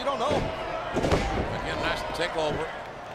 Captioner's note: mat thumping